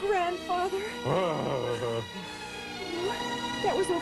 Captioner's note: grunts